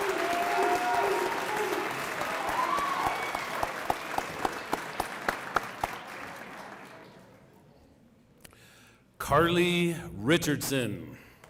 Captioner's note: applause